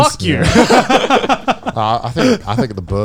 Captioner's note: men laugh